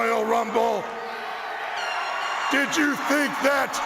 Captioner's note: audience cheers